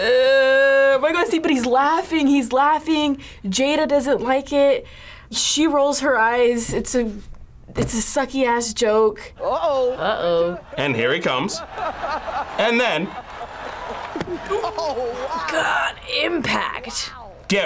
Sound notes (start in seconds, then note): 9.5 laughs